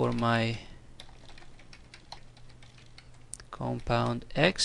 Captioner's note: typing